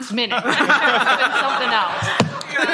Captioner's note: laughter